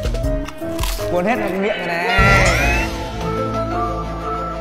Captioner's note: voiceover